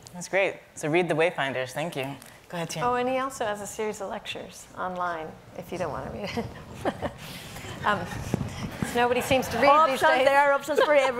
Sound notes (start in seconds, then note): 6.4 laughing; 8.9 audience laughing